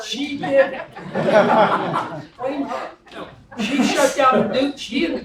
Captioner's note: laugh